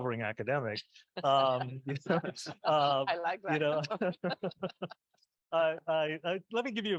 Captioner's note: group chuckling